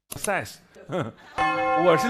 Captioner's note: heh heh